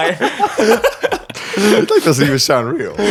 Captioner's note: all laughing